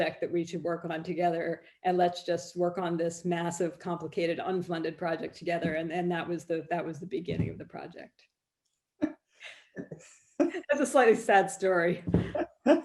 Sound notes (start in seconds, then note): 9.2 laughs